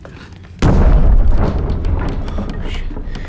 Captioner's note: booms